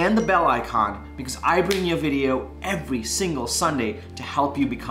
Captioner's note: snapping